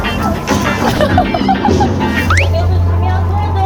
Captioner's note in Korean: 유쾌한 음악; 웃음